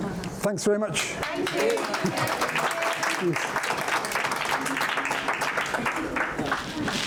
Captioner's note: applause